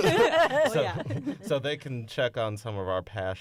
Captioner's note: laughter